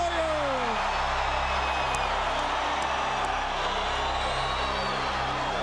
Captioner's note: applause